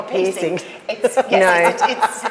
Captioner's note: group laughs